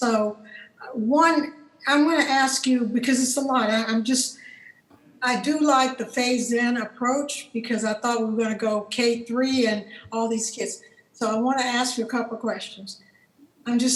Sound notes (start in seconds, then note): none